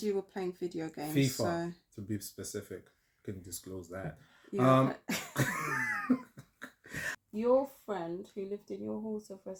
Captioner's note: laughter